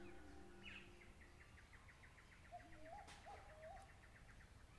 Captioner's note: birds chirping